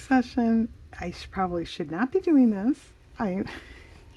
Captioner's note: laughs